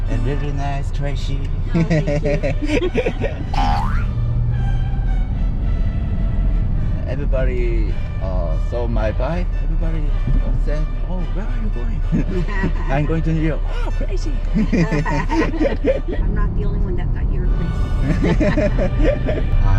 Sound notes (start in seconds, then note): 14.4 laughing